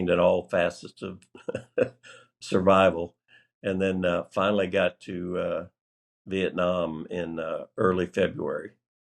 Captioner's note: laughter